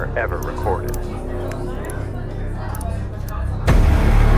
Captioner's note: distant boys talking; ominous music